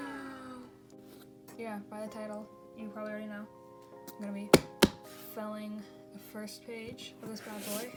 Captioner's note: gasps dramatically, "wow" sound effect; pat pat